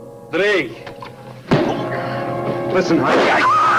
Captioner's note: fist thuds